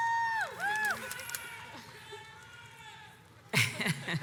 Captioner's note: audience cheers